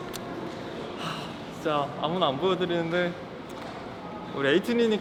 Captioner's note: sigh